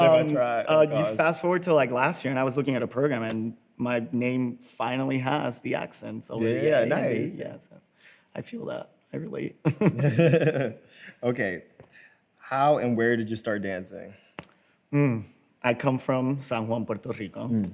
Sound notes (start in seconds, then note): 9.7 both laugh